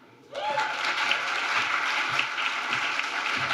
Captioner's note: applause